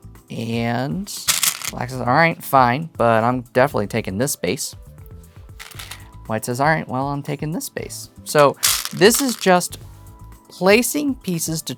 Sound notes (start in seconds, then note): 1.2 stones rattling; 5.6 stones rattling; 8.4 stones rattling